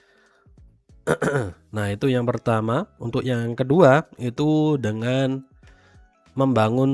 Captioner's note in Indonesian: berdehem